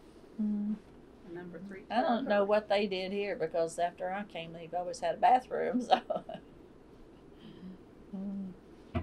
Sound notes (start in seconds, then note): 1.4 laughter